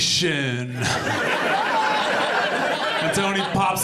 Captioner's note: audience laughs